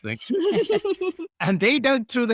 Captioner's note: laughing